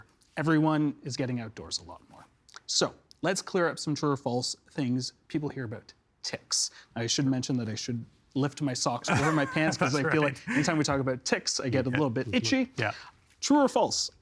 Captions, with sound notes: everyone is getting outdoors a lot more. So, let's clear up some true or false things. People hear about ticks. I should mention that I should lift my socks over my pants. (Laughing) That's right. Because I feel like any time we talk about ticks, I get a little bit itchy. Yeah. True or false?